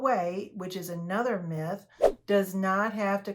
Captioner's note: air whooshes